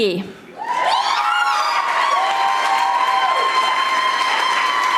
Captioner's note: audience applauding